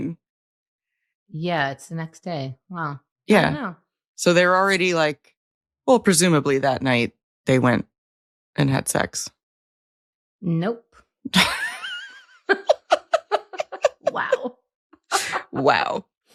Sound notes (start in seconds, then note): 11.3 both laughing